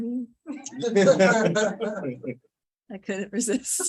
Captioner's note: laughing